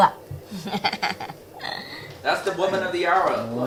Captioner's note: laughing